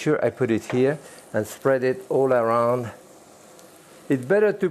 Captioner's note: pan sizzling